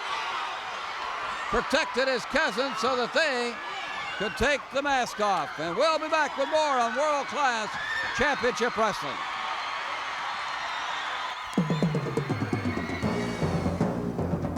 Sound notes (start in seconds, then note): 9.8 crowd cheers; 11.5 rapid drumming